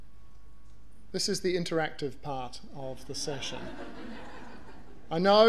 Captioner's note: audience laughter